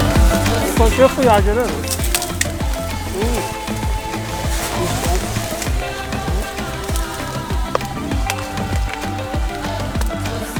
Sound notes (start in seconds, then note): 0.9 local guide speaking in foreign language; 3.4 singers singing in foreign language